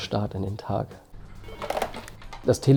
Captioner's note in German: Telefon klingelt